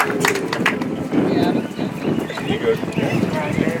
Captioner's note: audience applauds